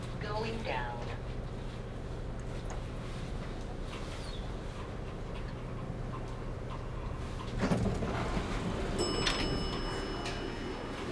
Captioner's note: lift going down